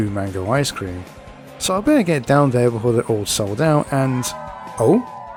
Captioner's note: crowd cheers